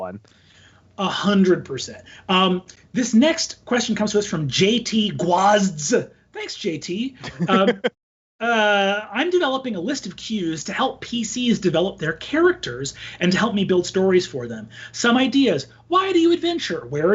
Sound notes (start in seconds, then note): 7.2 laughs